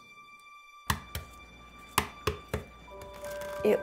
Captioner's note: egg cracking